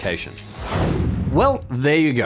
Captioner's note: air whooshing